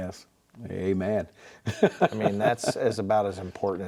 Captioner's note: laughing